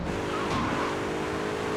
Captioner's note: plane engine roaring